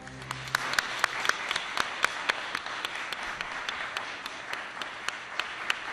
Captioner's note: applause